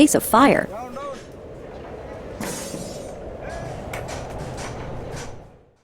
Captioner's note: wind howling